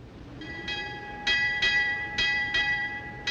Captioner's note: ships bell ringing